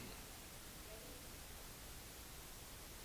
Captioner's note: voiceover